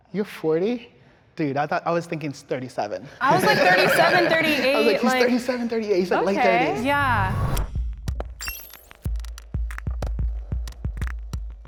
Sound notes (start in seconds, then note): 3.2 all laughing; 8.3 upbeat music